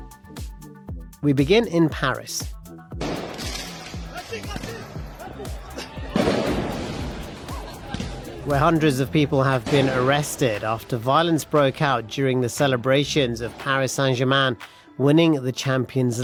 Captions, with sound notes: We begin in Paris. [firecrackers exploding] Where hundreds of people have been arrested after violence broke out during the celebrations of Paris Saint-Germain winning the Champions